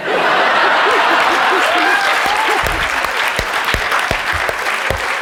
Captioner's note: laughter; applause